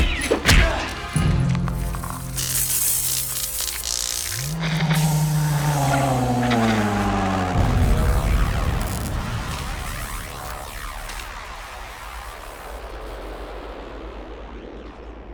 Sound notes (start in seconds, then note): 0.1 dramatic music; 3.7 moaning